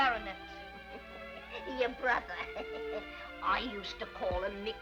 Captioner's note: chuckles